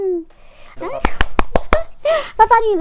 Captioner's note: claps